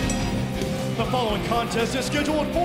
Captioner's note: bell ringing